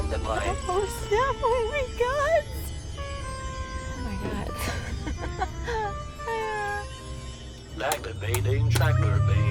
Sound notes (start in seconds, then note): 4.4 chuckles